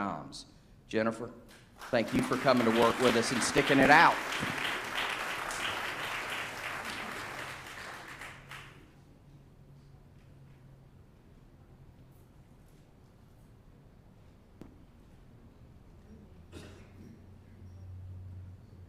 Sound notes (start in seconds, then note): 8.0 applause